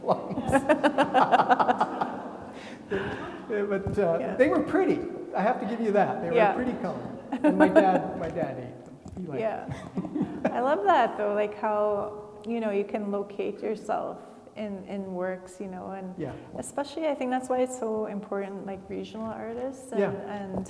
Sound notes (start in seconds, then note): 0.0 everybody laughing; 7.2 laughing; 9.7 chuckles